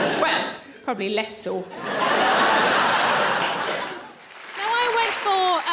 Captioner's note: audience laughs